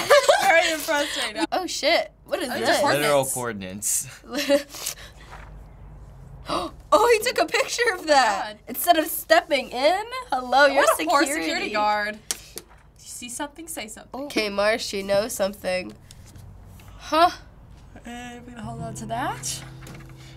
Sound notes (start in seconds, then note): 0.0 laughs; 6.4 gasps